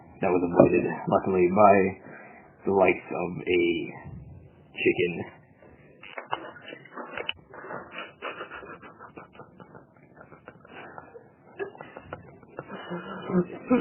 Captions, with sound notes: That was avoided, luckily, by the likes of a chicken *sniffling*